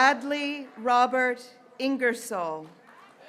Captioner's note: graduates cheering